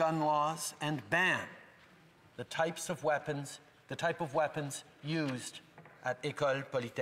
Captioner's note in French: voix de l'interprète